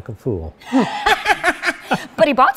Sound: laughing

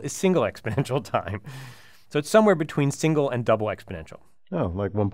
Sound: laugh

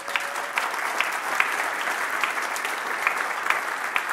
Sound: applause

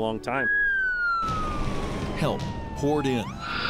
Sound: sound of sirens

